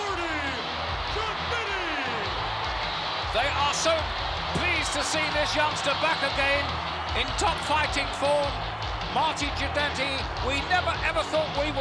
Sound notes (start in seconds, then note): 1.7 crowd cheers; 1.7 rock music plays